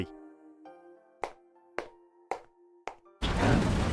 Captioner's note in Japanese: ヒールの靴で歩く音